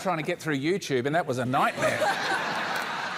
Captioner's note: laughter; applause